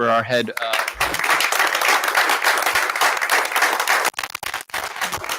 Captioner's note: all applauding